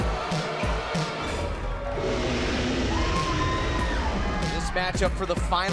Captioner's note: crowd cheering